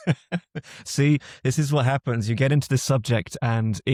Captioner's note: laughs